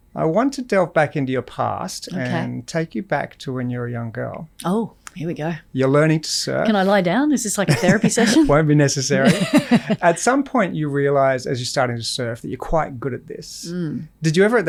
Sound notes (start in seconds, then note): 9.2 laughs